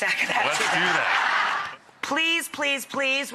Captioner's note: audience laughing